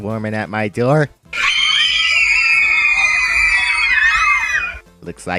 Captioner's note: Fangirls Screaming